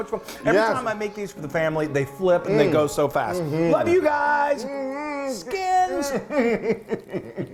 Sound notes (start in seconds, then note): 4.5 laughing